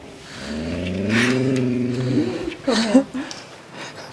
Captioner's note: growl